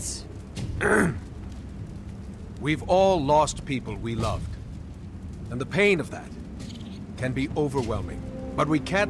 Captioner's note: clears throat